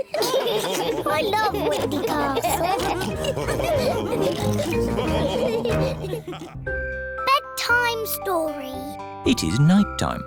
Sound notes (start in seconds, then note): 0.0 all laughing; 3.6 continues laughing